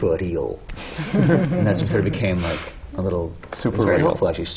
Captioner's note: laughter